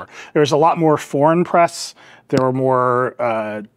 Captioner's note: none